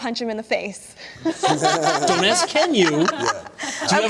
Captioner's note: laughter